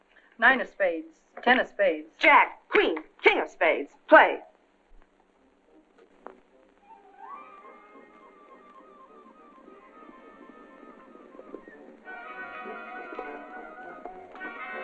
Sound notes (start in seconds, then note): 10.1 hooves galloping